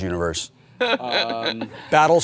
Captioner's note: laughs